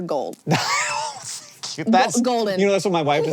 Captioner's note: HANK wheeze-laughs